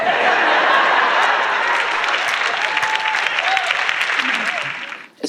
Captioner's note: audience claps